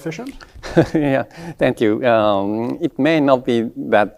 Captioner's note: chuckles